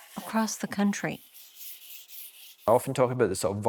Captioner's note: charcoal rubbing